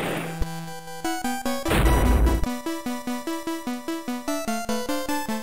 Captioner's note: thud